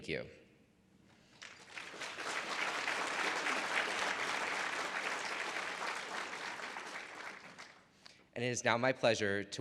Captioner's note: audience applause